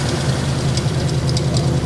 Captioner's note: exhaust rumbling; chassis rattling